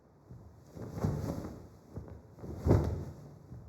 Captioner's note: flag blowing